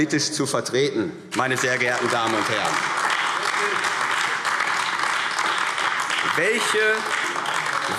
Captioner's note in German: Beifall AfD